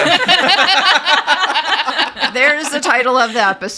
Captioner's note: everyone laughing